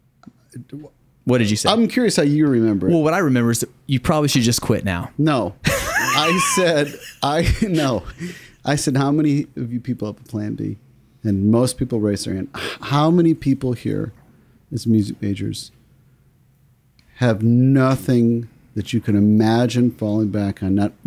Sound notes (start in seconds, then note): 5.7 laugh